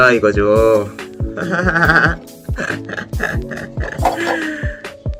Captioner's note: Spongebob laugh